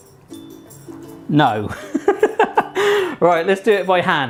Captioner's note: laughs